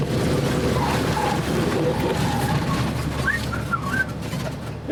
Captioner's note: brakes screeching, whistling